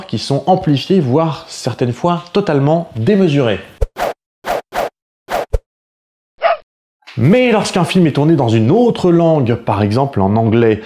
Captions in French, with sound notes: qui sont amplifiés voire certaines fois totalement démesurés. [Bruits de coups de poing] [Aboiement] Mais lorsqu'un film est tourné dans une autre langue, par exemple, en anglais,